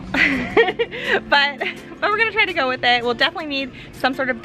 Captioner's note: laughs